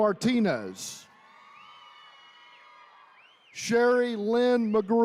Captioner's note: attendees cheering